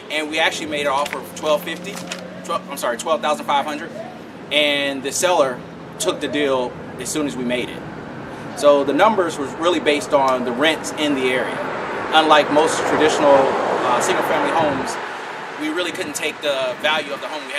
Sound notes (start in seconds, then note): 11.2 car noise